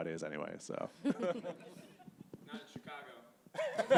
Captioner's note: panelists and audience laughing